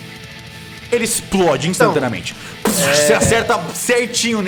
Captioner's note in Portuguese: Explosão